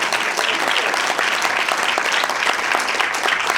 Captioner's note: applause